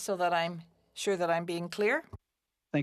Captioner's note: speaking French